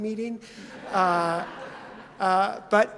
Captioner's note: audience laughs